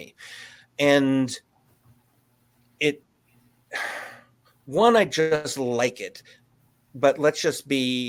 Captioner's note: sighs